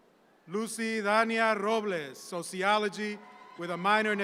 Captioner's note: audience applauding